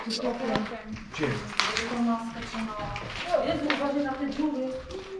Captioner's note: conversation from the next room